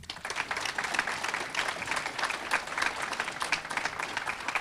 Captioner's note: audience clapping